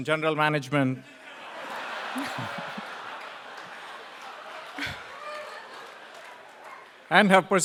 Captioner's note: laugh; applause